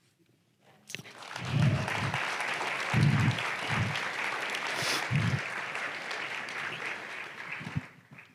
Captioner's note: applause